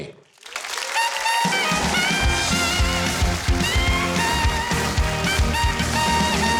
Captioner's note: audience applauds; upbeat music